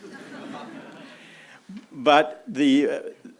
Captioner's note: audience laughing